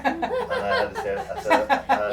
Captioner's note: laughing